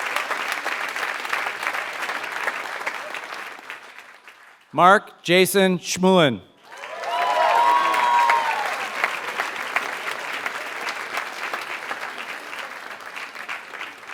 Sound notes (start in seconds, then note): 0.0 applause; 6.6 applause